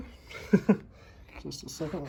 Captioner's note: laugh